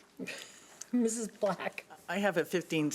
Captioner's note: chuckles